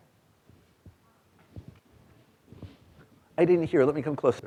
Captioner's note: student speaking faintly